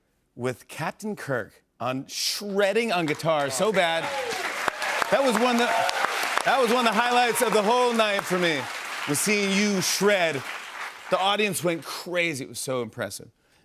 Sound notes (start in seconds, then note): 4.1 cheers and applause